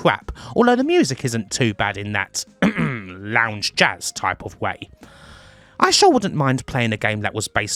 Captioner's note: ahem